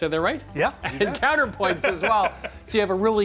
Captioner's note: laughing